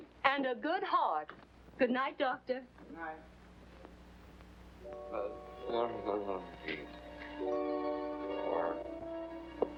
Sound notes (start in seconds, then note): 5.0 moaning deliriously